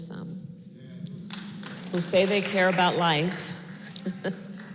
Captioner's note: applause